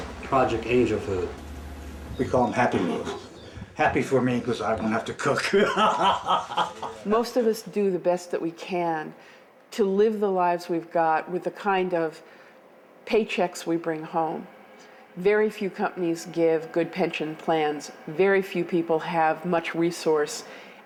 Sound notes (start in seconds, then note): 5.2 laughs